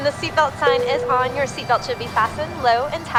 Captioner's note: tone chiming